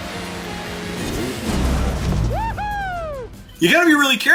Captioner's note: car engine roaring; player cheering